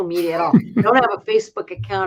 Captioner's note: laugh